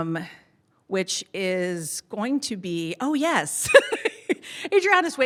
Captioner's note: laughs